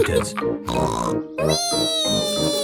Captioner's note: snorts